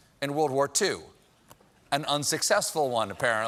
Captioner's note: laughter